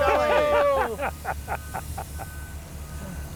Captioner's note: laughs